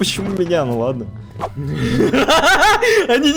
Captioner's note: evil laughter